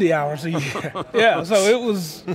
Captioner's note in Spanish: se ríe